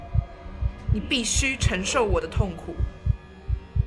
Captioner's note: Mandarin Language